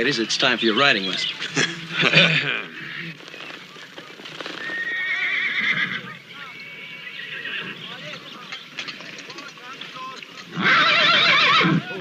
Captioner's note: Adam, Hoss clear their throats